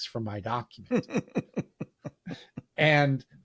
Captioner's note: laughing